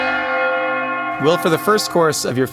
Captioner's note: bells chiming